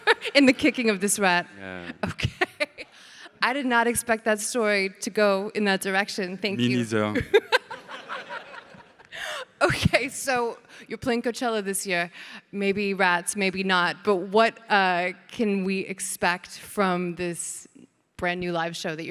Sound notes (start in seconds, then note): 0.0 laughs; 1.6 laughs; 7.2 everybody laughing